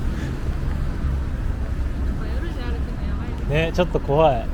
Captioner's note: laughs